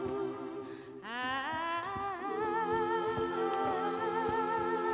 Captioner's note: mournful humming